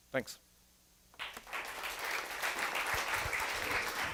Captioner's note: applause